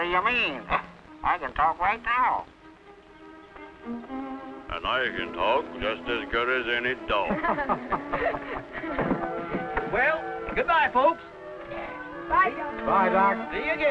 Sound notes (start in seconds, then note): 7.2 laughing